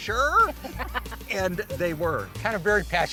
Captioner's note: laughs